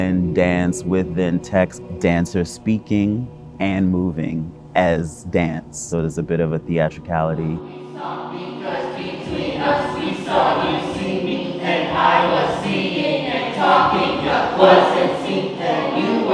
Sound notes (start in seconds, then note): 7.6 dancers chanting